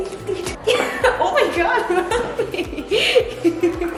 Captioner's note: laughs